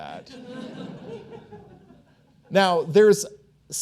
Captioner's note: audience chuckling